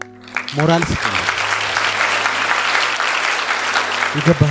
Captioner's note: applause